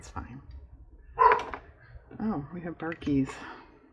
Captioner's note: dog barks